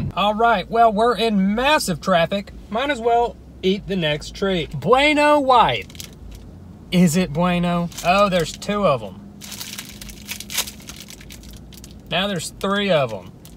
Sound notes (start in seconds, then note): 9.4 package crinkling